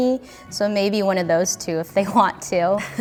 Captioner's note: laughs